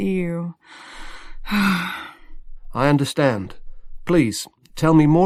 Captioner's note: sighs, tiredness in her voice